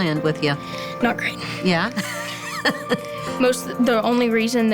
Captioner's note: laughs